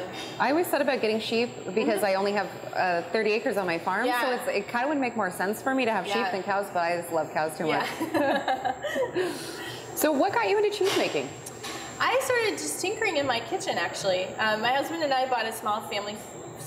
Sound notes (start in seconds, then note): 7.7 laughs